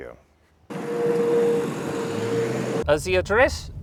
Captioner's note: car accelerating